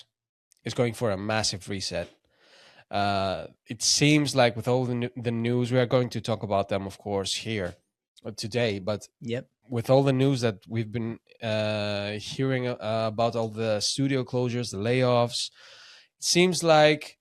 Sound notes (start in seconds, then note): none